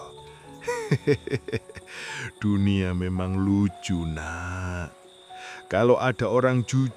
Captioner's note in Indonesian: tertawa